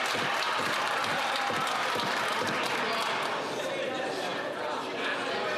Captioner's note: some Applause